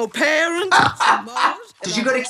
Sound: Trixie laughs

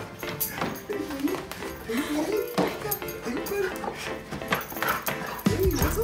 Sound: dog panting; man murmuring

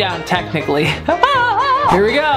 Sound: laughing

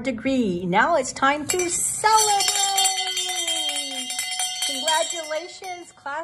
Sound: bell rings

